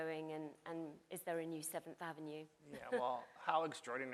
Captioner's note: chuckles